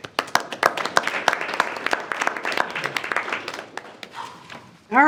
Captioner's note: board applauding